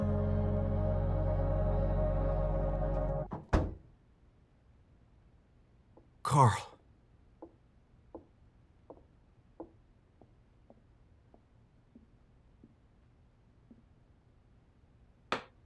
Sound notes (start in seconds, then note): 2.8 door opens